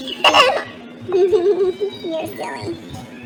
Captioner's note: giggles